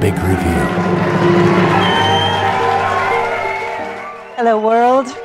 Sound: audience applauding; drum roll

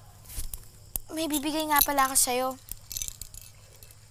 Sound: necklace clinking

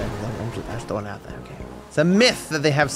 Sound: under his breath

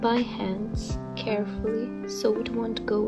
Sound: none

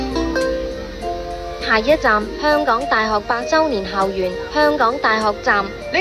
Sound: Cantonese

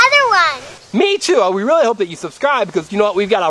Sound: voiceover

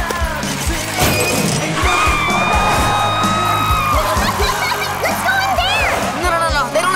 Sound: screaming

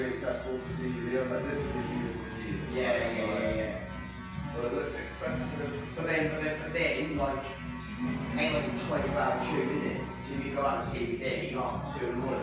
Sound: barber shop chatter

